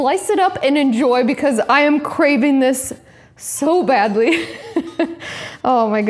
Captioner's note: laughs